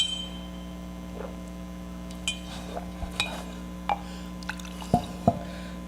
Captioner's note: glass clinking; actor gulping; liquid sloshing